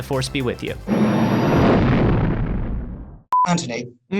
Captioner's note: engine roaring